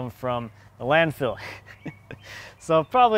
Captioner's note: laughing